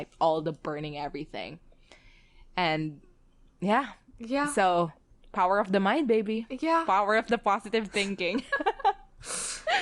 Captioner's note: both laugh